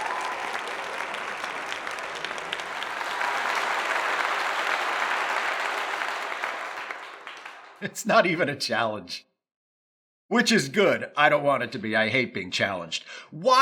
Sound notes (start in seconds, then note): 2.0 cheers and applause